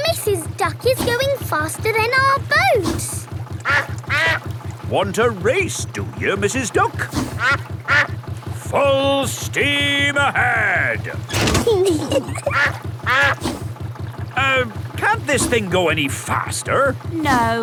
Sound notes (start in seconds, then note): 3.6 quacks; 7.6 quacks; 11.2 level clangs; 11.7 kids giggling; 12.0 quacks